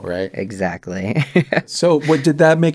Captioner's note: laughter